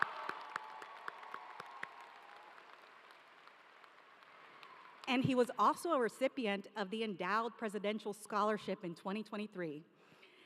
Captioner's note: cheering